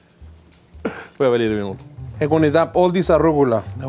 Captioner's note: mumbles